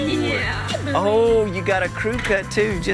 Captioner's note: all laughing